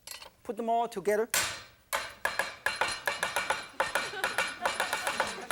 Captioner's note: knife chopping noise; audience laughing